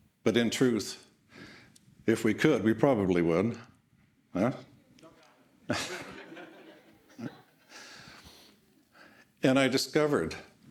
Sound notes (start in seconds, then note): 5.6 all laughing